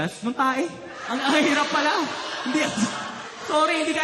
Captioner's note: laughter